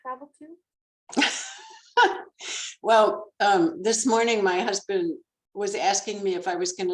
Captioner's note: laughs